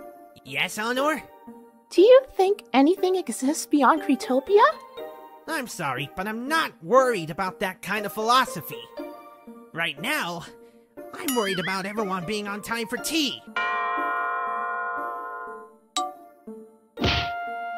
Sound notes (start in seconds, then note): 14.4 rings bell